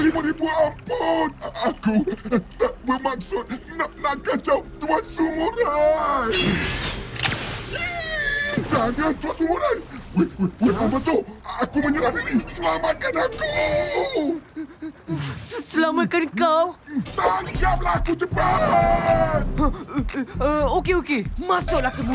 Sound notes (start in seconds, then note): 6.4 sliding metal; 8.2 RocketFish whimpering